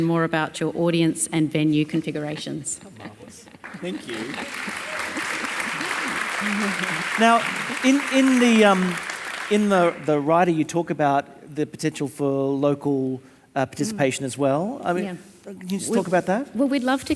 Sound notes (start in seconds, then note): 3.6 audience applauding and cheering